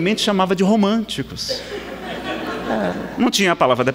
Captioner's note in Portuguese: risadas